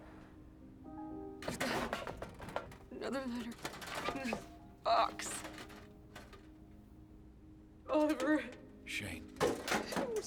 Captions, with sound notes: THERE'S GOTTA BE... ANOTHER LETTER IN THIS BOX... [BOX RATTLES] OLIVER... SHANE. OH, SHE...